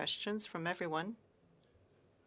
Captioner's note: speaking French